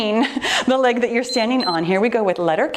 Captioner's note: timer beeps